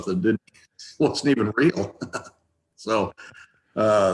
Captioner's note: chuckles